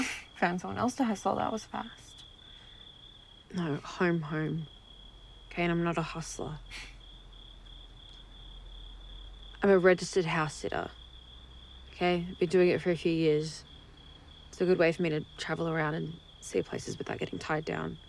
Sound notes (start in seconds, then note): none